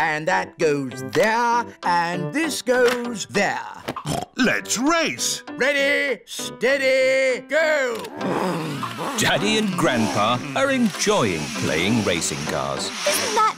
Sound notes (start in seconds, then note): 4.0 snorts